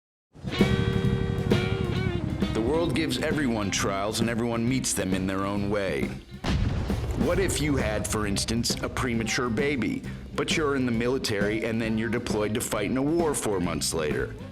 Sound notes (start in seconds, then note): 0.5 helicopter blades whir; 0.9 country music